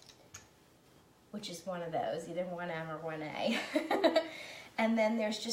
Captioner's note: laughing